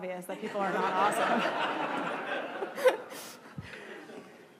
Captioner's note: laughing